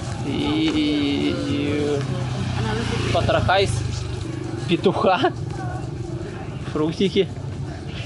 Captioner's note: laughs